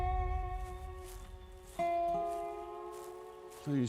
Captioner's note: slow country music; footsteps